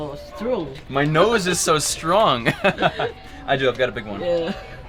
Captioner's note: chuckles